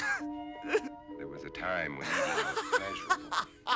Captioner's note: laughing; crying; laughing